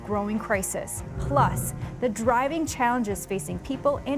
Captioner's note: screen whooshing